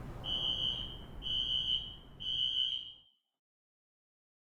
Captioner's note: alarm screeching